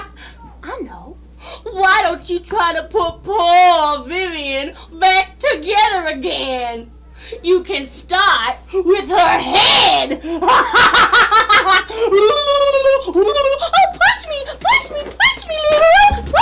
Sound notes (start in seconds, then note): 9.1 blaughing; 12.1 blubbering Sounds